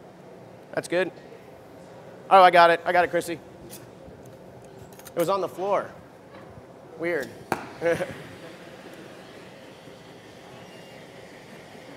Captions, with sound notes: That's good. I got it. I got it Chrissy. It was on the floor. Weird. (Laughter)